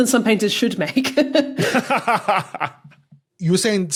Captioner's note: laughs; snickers